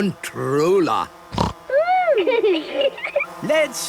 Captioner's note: snorting; laughter